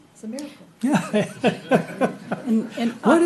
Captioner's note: laughing